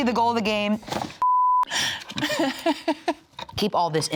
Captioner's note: beep; laughs